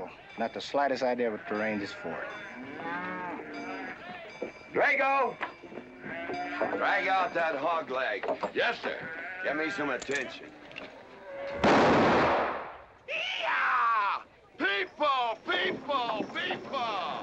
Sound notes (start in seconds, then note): 1.8 cattle mooing; 11.6 gunshot